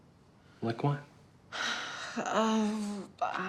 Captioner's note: sighs